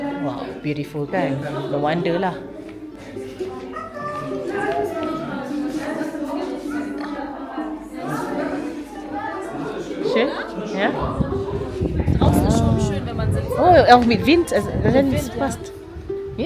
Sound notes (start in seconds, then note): 10.0 speaking German